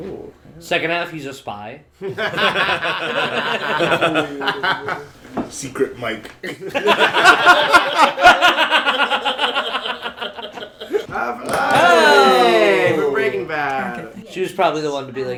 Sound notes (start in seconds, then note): 2.0 laughter; 6.4 laughter; 11.0 the straights exclaim